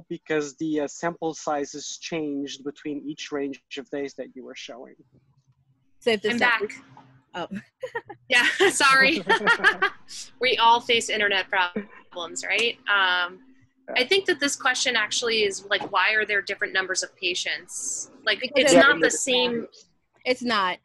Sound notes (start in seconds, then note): 8.3 group laughs